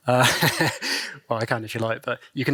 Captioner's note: laughs